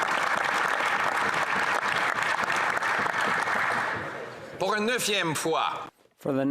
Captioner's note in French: voix de l'interprète; applaudissements